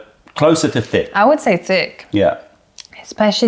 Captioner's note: sips tea